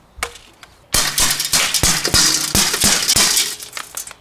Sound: glass cracking; glass cracks

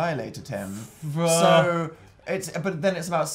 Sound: noise of objection

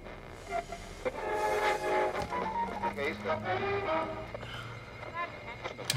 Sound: static, changing channels

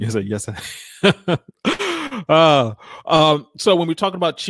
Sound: laughs

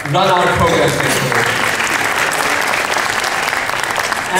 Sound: clapping

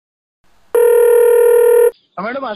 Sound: phone Ring

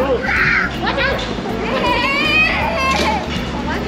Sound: screams; children screaming

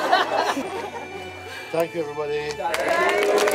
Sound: laughter

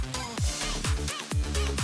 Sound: none

